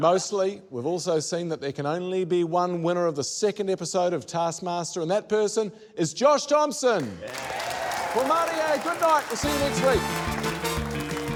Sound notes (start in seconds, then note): 7.2 cheering, applause